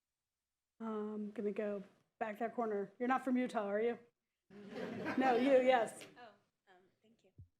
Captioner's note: laughter